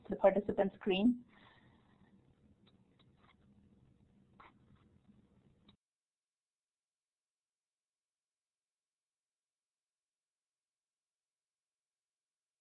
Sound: silence

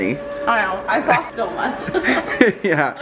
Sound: both laugh

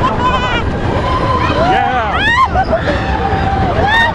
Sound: people laughing and screaming

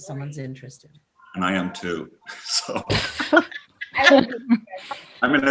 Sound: laughs

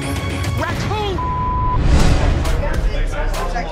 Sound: beep

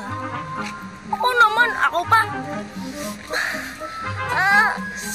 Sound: winces

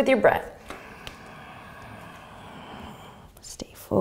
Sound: breathing

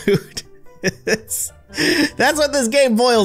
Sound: laughter

